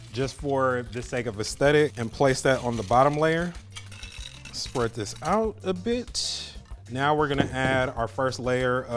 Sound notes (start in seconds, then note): 4.1 pouring crackers